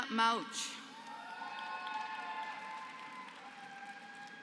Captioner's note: applause